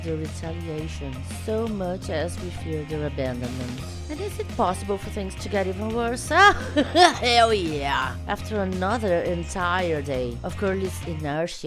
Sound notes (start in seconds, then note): 6.3 guffaws